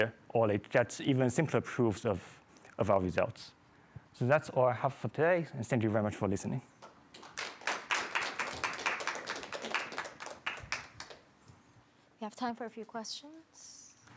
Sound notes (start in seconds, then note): 7.1 applause